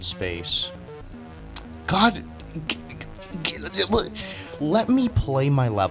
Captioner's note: tch; sputtering